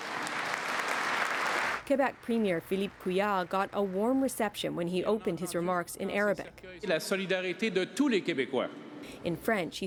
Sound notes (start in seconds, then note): 3.6 speaking French